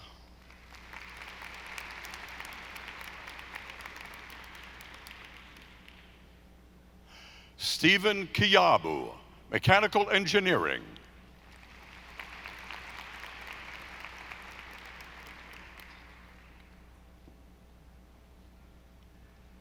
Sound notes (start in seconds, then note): 0.4 audience applauding; 11.4 audience applauding